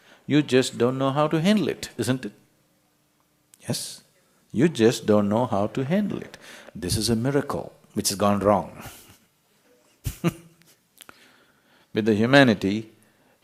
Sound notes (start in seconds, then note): 9.9 يضحك